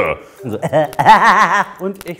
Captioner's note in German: Keckerndes Lachen